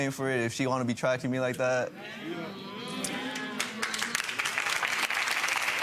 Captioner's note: audience agreeing and applauding